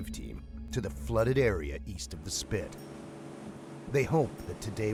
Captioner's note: voiceover